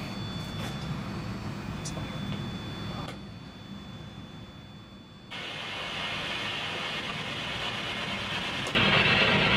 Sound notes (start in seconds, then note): 5.3 static crackling